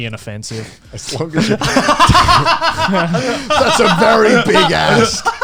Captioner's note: all laughing